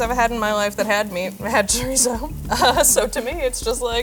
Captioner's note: chuckles